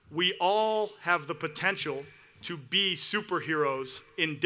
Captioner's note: none